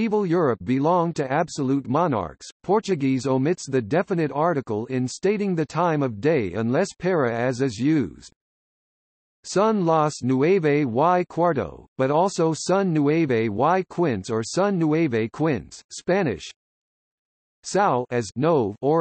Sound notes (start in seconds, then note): 15.8 Spanish